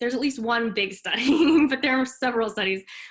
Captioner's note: chuckles